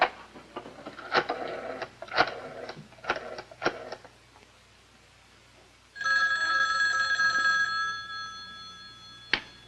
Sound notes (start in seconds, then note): 6.0 telephone Rings